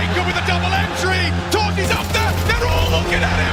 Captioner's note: gun firing